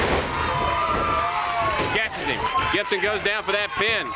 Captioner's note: crowd cheering